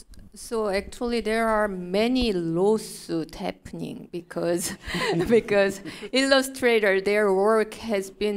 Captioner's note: chuckle